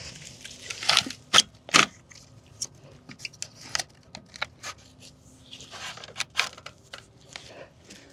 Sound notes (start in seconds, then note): 1.0 clamoring